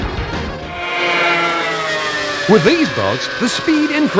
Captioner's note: boat engines whine